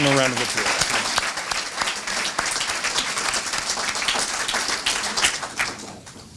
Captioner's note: applause